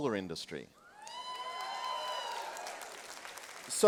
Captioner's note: applause and cheering